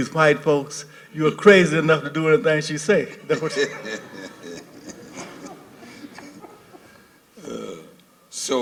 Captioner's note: laughter